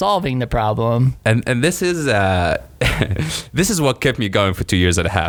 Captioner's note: laughs